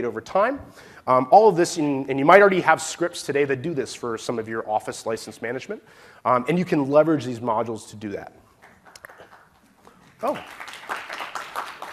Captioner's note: cheers and applause